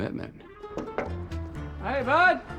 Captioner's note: glass knocked